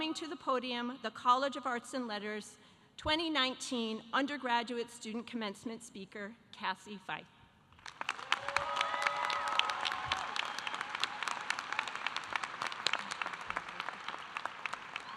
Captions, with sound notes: to the podium the College of Arts and Letters 2019 undergraduate student commencement speaker, Cassie Feith. (audience applauding) (audience cheering)